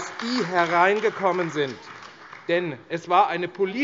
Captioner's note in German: Beifall AfD